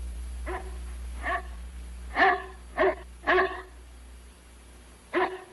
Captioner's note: barking